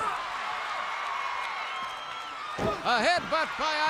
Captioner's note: crowd cheers